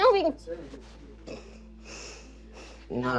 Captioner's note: breathing heavily